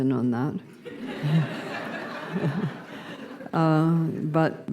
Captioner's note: laughter